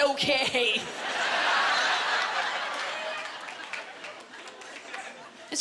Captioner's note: laughter